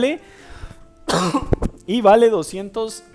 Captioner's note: cough